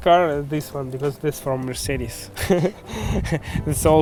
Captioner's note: laughing